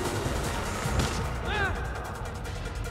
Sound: yells

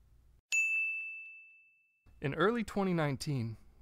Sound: bell rings

